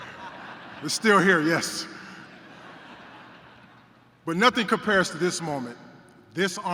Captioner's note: laughter